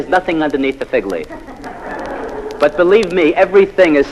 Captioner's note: laugh